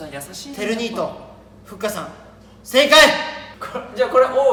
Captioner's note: laughs